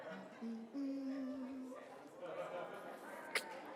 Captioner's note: hums